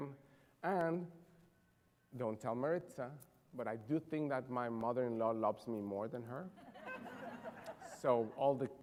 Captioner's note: laughter